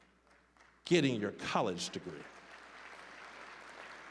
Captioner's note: scattered applause; applause